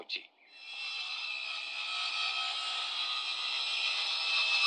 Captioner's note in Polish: dźwięk piłowania